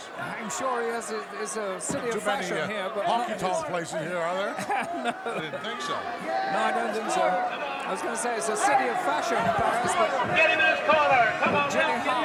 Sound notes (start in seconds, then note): 5.6 laugh; 11.2 applause